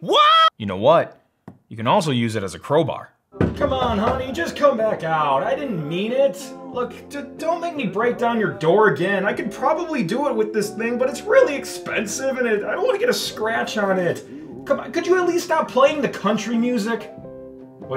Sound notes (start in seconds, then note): 3.3 knocking on door; 4.3 country music in background